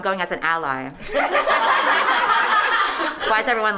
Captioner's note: laughing